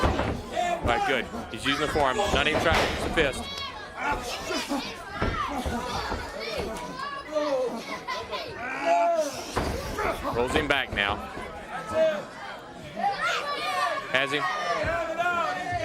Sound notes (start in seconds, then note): 3.3 crowd chatter